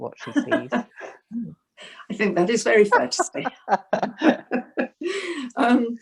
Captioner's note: laughs